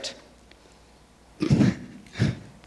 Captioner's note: laughs